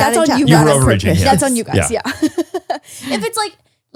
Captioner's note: laughs